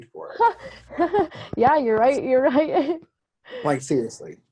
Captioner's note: chuckles